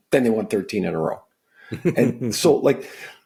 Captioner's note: laughing